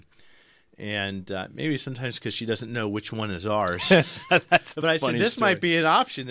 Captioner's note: laughs